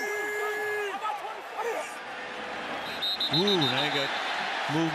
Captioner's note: cheers